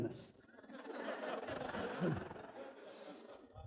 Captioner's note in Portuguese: risos